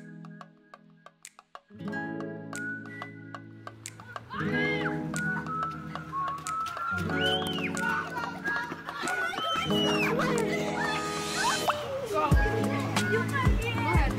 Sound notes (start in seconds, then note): 7.5 kids shrieking; 11.3 upbeat music